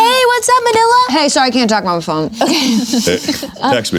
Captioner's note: laughing